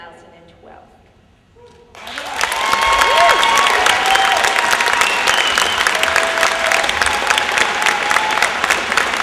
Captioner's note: applause